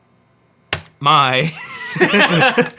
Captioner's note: laughs; key clicks; laughs